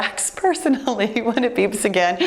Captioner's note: giggling